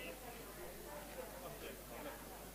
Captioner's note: background chatter